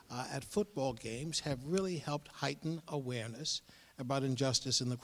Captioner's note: none